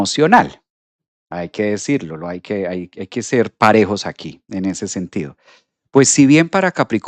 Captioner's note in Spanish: resoplido